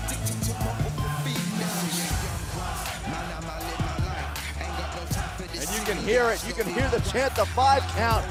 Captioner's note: crowd cheering